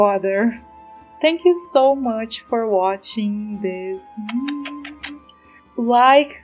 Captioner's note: kiss noises